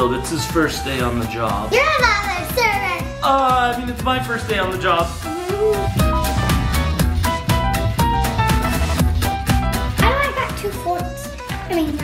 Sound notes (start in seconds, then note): 5.1 giggles; 6.8 upbeat music